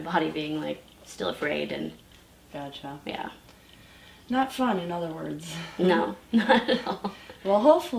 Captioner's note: laughs